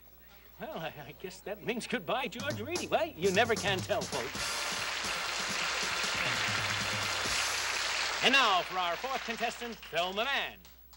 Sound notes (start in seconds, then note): 4.0 applause